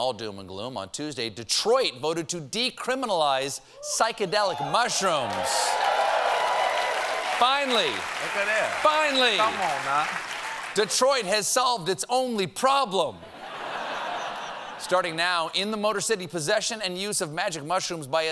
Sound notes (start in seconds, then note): 4.3 cheers and applause